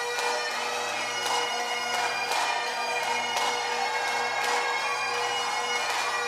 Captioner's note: cheering